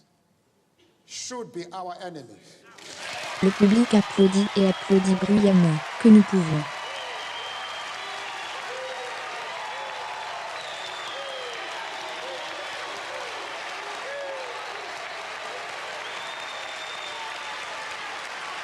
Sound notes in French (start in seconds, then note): 2.7 Le public applaudit et applaudit bruyamment